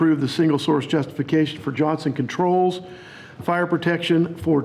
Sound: none

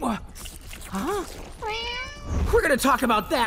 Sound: grunting; meowing

